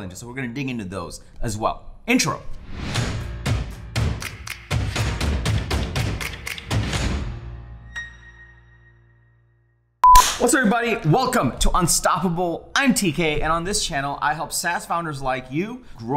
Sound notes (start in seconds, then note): 3.4 upbeat music; 10.1 loud cracking